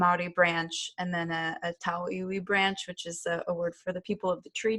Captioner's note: non-english